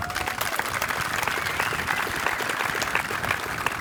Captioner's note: applause